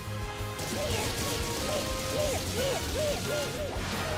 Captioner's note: Pikachu grunting